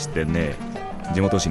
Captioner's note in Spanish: sonido de teléfono